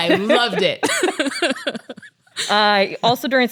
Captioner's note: laughs